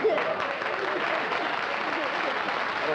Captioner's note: applause